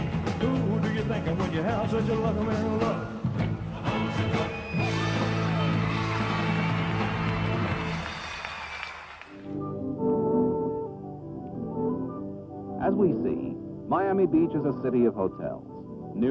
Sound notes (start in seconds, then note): 3.8 cheers and applause; 9.4 soft music plays